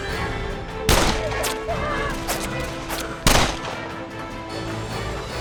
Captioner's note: bullets whizzing past